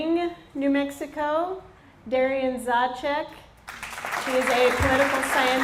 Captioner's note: applause